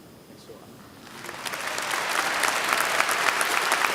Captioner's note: applause